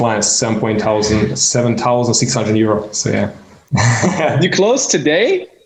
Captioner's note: man laughing